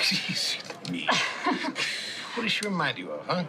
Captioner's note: laughs